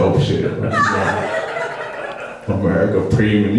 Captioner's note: laughing